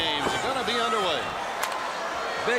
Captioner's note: crowd cheering